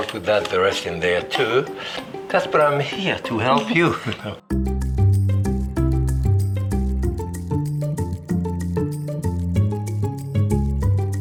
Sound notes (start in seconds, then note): 3.2 chuckles; 4.3 bright music